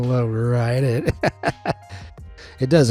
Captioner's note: laughs